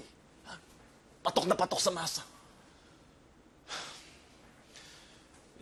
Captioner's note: sighs heavily